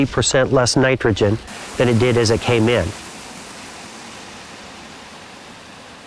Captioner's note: running water